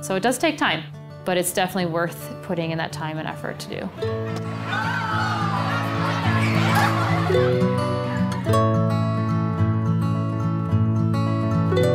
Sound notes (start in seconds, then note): 4.2 kids exclaiming